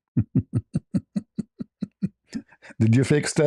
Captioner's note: ketawa